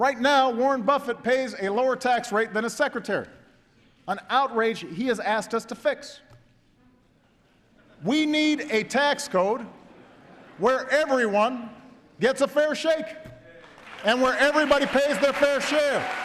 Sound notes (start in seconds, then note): 7.2 laughter